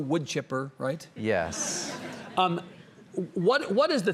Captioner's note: audience laughs